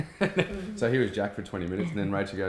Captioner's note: laughs